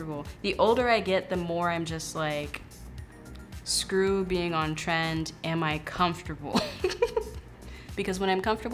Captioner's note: laughs